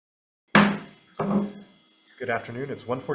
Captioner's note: gavel bangs